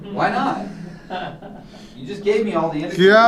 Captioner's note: laughter